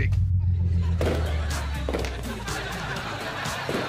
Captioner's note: streamers pop; laughter